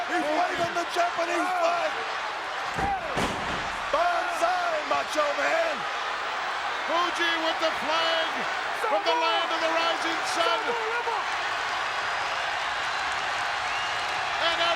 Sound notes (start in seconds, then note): 5.9 audience cheers; 11.4 audience applauds and cheers